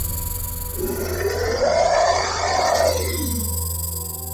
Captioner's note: snake growls